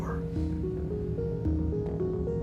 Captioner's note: electricity humming